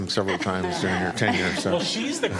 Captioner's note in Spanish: Algunas risas